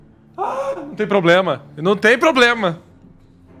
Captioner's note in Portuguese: emite gritinhos